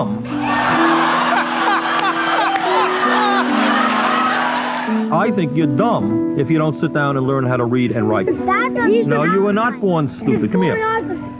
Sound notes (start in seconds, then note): 0.3 studio laughter